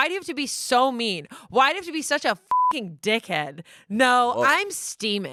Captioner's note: beep